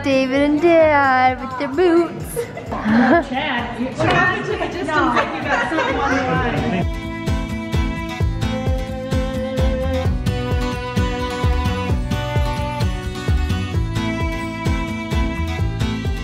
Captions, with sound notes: Uncle David and Dad with their boots. (women murmuring) (pleasant string music)